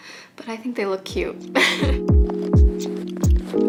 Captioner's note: upbeat music; laughs